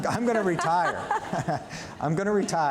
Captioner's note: audience laughing